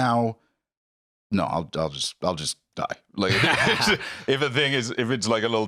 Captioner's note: both laugh